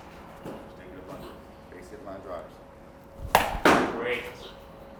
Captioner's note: ball hitting